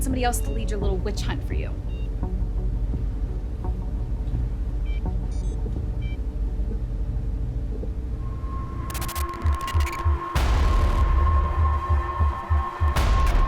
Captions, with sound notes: Find somebody else to lead your little witch hunt for you. (tense music) (machinery beeping) (intense music)